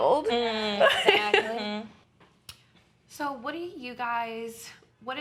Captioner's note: laughing